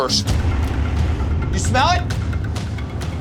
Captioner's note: yelling